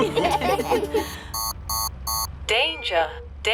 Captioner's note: laughter; beeping